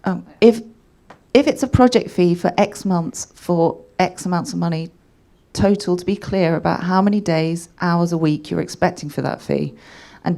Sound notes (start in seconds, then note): none